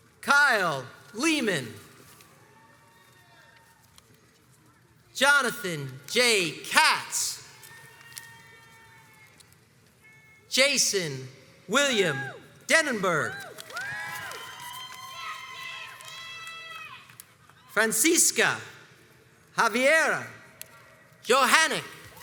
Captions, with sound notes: Kyle Lehman, Jonathan J. Katz, Jason William Denenberg, (crowds cheers and applauds) Francisco Javier Johanni,